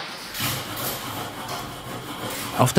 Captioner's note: scraping noise